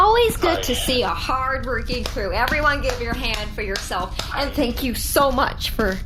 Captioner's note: clapping